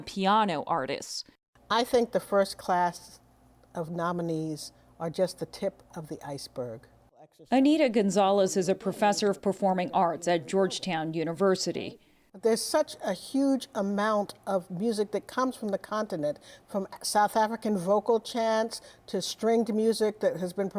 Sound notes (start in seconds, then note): 7.8 voice-over